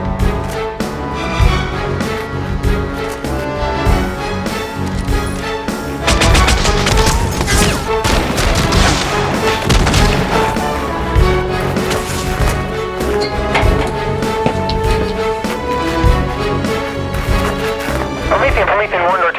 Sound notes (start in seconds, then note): 9.6 gun fire